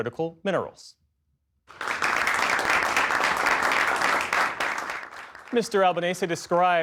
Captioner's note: applause